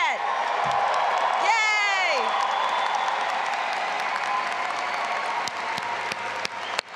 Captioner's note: audience applauding and cheering